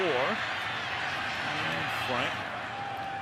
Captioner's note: cheers